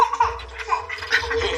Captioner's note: laughs